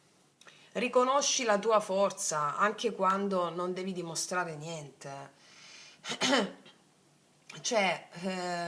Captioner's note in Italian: schiarire la voce